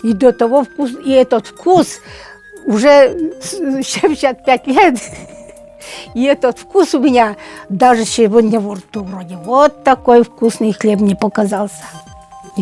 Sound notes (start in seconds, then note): 4.9 laughs